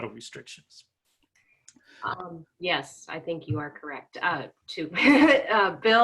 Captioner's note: laughing